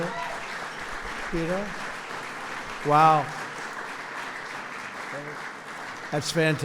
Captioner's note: applause